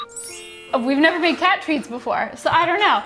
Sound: bells chiming

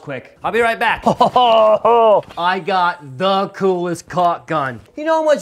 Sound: laughs

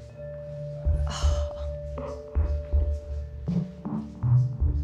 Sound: gasps in awe

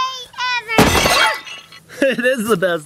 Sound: glass Breaking

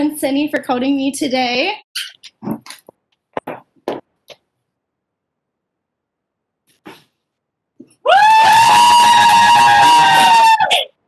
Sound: cheering

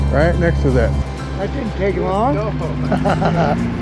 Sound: boat engine running

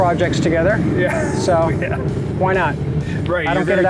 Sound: chuckles

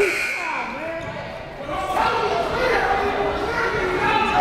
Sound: buzzer sounding; crowds yelling and cheering

